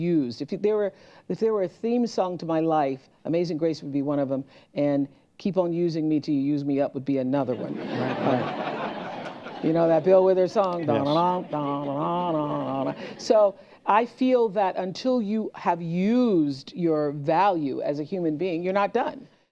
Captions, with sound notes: If y-- there were-- if there were a theme song to my life, Amazing Grace would be one of 'em and Keep On Using Me Till You Use Me Up would be another one. (LAUGHTER) You know, that Bill Withers song, "Da na na, da na na na na na." So, I feel that until you have used your value as a human being, you're not done.